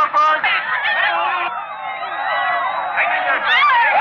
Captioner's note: cheering